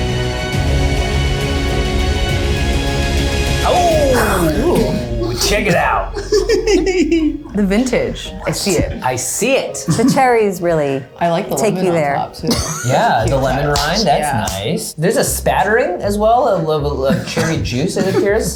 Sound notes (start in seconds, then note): 6.1 laughter